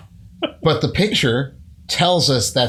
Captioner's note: laughter